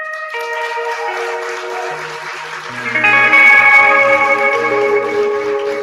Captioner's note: cheering